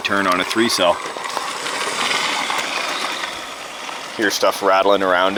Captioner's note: remote control car sound